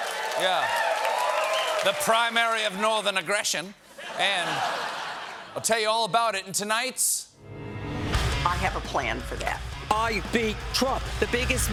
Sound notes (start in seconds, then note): 3.1 cheers and applause; 3.9 laughter